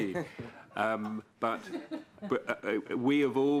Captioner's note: laughter